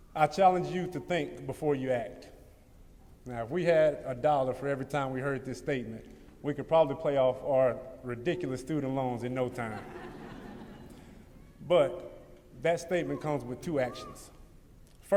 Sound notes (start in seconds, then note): 9.5 laughter